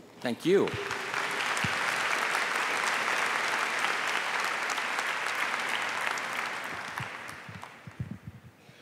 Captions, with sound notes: WORLD AS A WHOLE. THANK YOU. >> THANK YOU. [APPLAUSE]